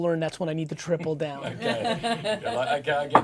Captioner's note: laughing